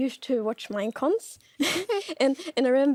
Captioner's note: both laughs